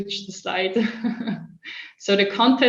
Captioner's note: chuckles